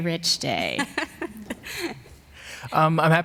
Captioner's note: laughs